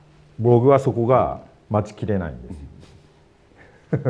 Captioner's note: laughs